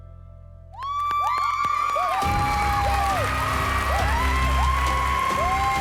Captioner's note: cheering, applause